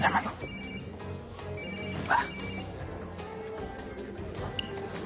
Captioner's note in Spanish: Suena el celular